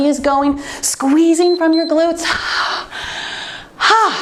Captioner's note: timer beeps